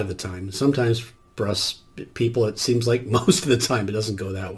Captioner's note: chuckles